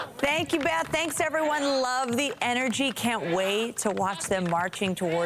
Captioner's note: applause